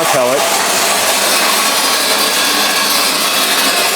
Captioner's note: pellets clanking